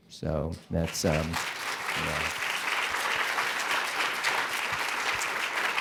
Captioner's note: applause